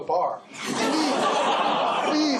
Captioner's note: laughter